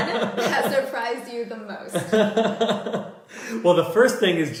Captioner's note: laughter